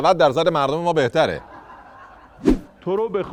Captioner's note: laughter